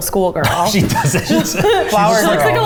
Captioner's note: laughing